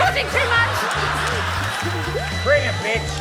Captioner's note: laughter